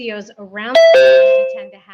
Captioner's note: computer dings